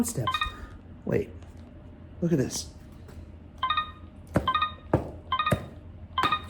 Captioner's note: instrument beeping